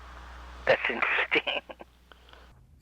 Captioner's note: laughing